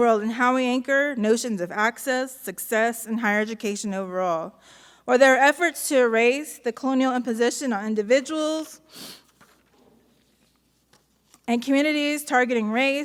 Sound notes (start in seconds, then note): none